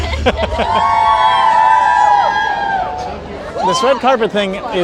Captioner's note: laughs; crowd cheering